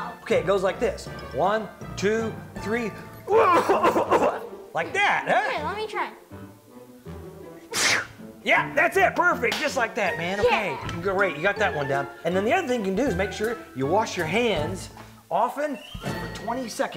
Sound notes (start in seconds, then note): 3.2 coughs; 7.6 sneezes